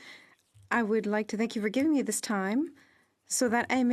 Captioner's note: speaking French